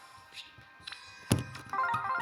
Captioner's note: A knock on the desk